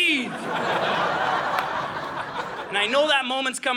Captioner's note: audience laughing